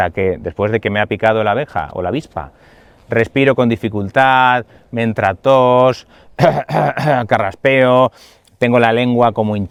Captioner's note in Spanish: carraspeo